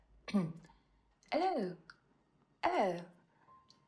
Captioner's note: British accent